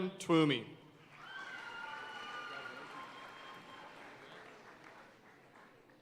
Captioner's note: audience cheering and applauding